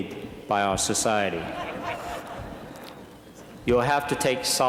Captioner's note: laughter